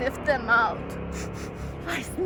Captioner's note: sniff sniff sniff